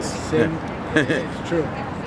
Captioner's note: chuckles